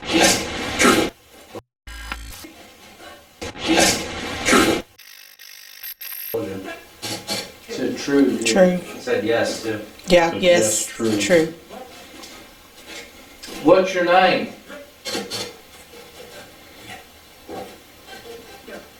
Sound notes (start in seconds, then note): 0.0 static fizzing; 0.2 static playback transmitting; 2.1 static fizzing; 5.4 static fizzing; 15.0 static playback transmitting